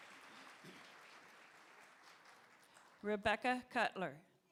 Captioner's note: applause